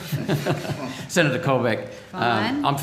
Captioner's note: laughing